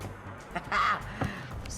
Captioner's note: laughs